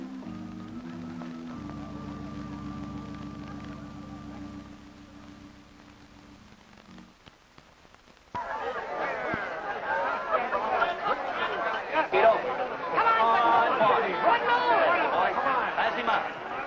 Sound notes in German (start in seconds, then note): 8.3 Geschwätz